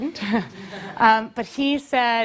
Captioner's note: laugh